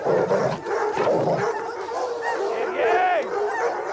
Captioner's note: growling